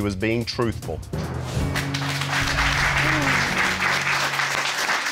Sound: applause

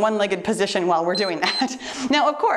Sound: timer beeps

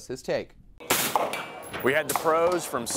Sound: gunshot

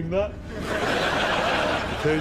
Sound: audience laughs

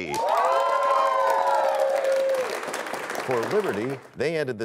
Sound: cheers and applause

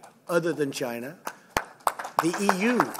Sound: applause

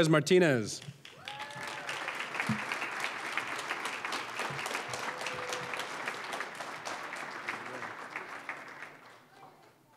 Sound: applause

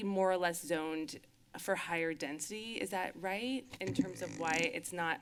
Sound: squeak sounds

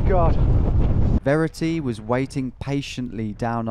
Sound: voiceover

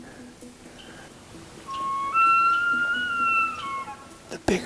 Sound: elk Bugling

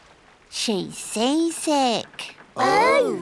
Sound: none

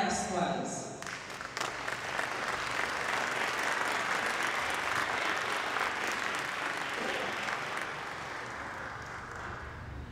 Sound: applause

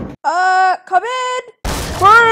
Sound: door bashes open

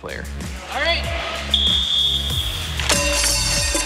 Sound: whistle; metal clanging

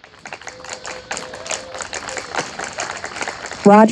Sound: audience applauding and cheering

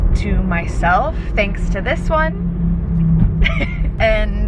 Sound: laughing

